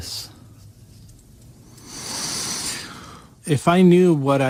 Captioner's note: Suspiro